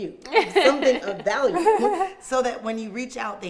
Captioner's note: laughing